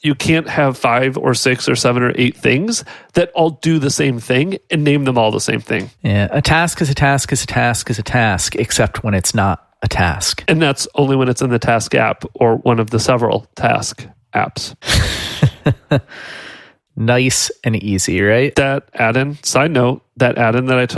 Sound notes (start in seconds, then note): 14.8 laughs